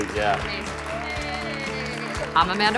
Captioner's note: everyone clapping